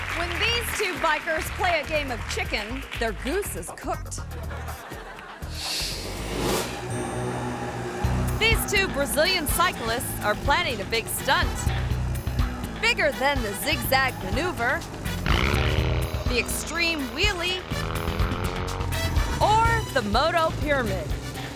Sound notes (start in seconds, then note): 0.0 audience applauding; 4.6 audience applauding; 6.2 engines revving